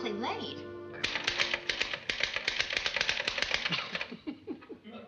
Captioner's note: clunking of typewriter; laughs